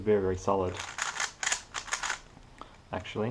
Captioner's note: cube noises